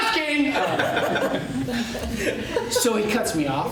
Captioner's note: laughter